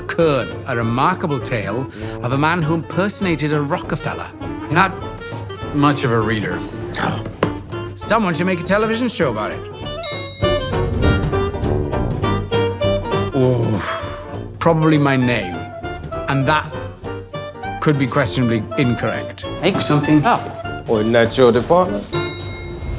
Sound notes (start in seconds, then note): 13.4 sighs; 22.1 elevator bell dings